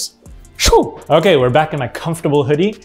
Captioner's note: vocalizing whooshing